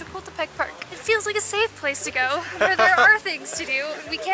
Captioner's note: laughs